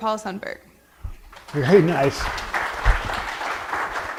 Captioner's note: audience applause